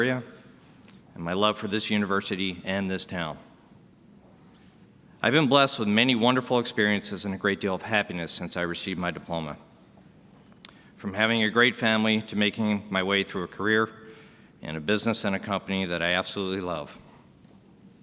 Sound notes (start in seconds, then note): none